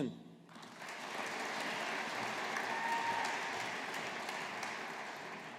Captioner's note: audience applauding